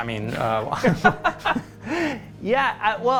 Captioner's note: laughter